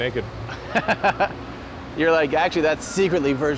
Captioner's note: laughs